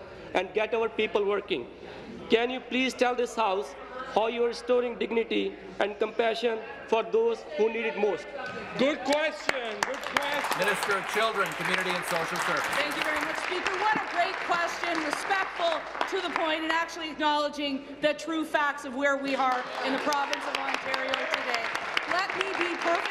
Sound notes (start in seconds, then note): 13.8 applause